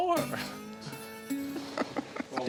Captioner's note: laughs